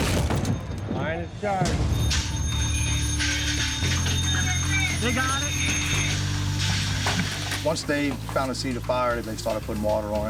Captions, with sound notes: [alarm ringing] Once they found the scene of the fire, they started putting water on it